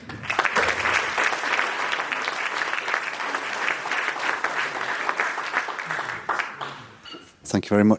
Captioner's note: round of applause